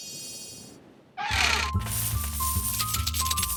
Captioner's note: hinges creak; coins jingling